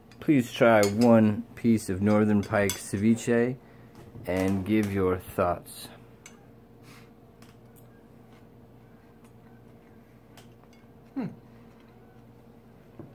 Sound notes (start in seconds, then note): none